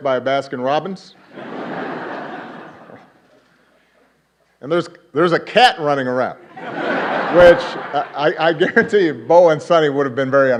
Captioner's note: laughter